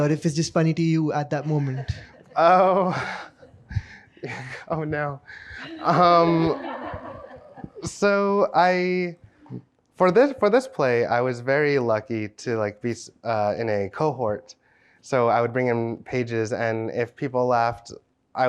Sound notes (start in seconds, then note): 1.4 chuckles; 1.4 chuckling; 5.6 audience laughing